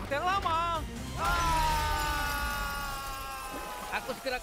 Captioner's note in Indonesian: Cody dan Joe berteriak; kaca pecah